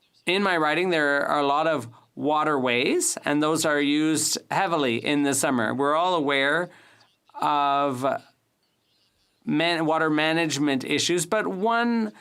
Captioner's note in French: voix de l'interprète